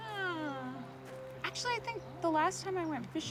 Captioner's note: laughs